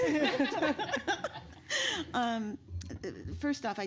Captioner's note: laughter